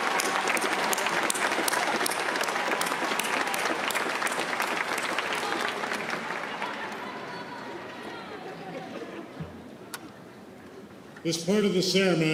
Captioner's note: applause